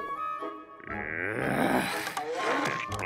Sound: groaning

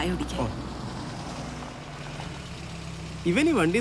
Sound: car Sound

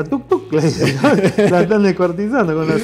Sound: ha Ha Ha

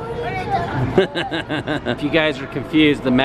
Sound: laughs

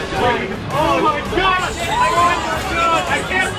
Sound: chaotic screaming and shouting

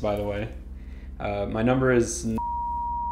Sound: beep

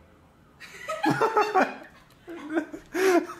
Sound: adorable laughter

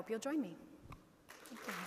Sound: audience applauding

